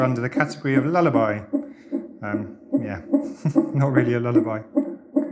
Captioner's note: heartbeat sounds; very deep and quiet hum